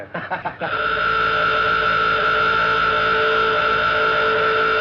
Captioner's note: horn blows